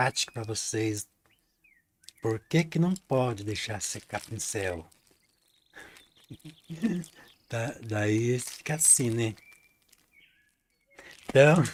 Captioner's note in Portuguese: risadas